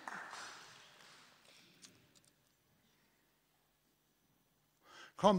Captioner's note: laughter and applause